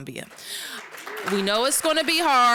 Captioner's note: applause